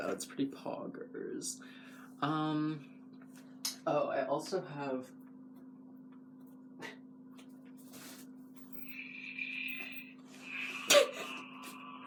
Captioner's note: laugh